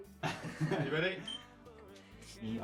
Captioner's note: laughing